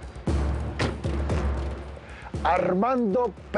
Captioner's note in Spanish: Portazo